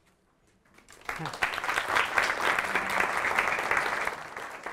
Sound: audience applauding

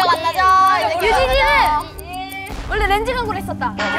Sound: meaningless cry

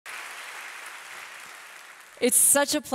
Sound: audience applauding

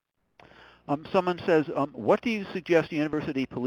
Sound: voiceover

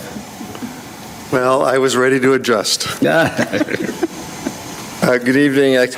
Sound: board members laugh

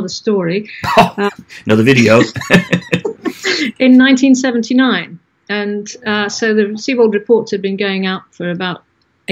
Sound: both laugh

